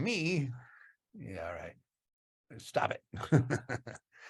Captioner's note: laughs